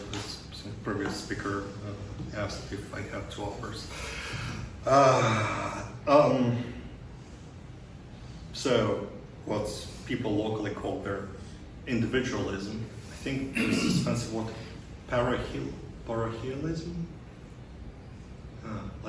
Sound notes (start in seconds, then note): 4.8 sighs